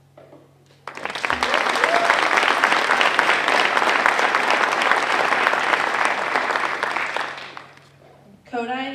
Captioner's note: applause